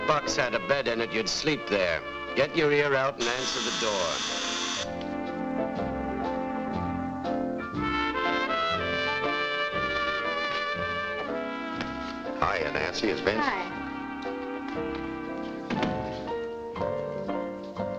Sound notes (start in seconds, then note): 3.2 doorbell buzzes; 5.6 gentle music; 14.7 gentle music